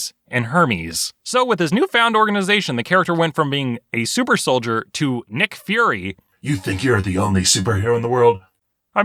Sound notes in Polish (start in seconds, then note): 6.6 mrocznym głosem